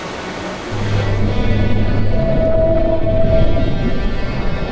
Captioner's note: whale sound